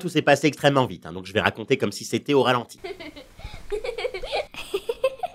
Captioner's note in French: rires de l'enfant